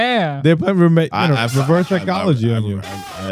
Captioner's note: speaking In Foreign Language